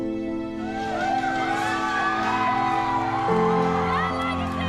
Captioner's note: cheerleaders celebrating